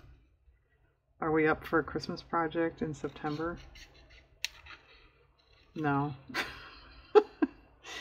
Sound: laughs

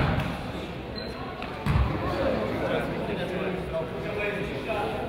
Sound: crowd chatters

